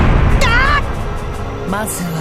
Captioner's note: panicked cry